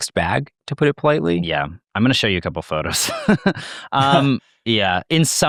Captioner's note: laughs